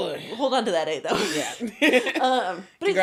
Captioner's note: laughing